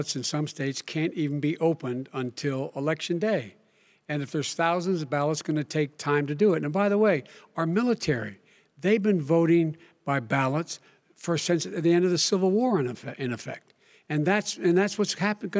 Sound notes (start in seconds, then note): none